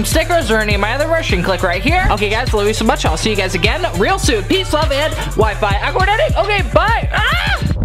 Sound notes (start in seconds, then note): 5.7 murmurs; 7.2 scream